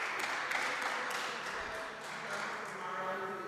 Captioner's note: audience applauding